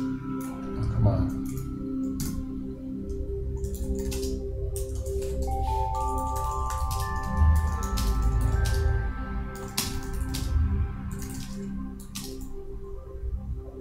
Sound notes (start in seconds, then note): 3.1 keys clacking; 8.8 beautiful, soothing chime and bell music